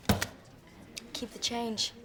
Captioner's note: money rustling; money slams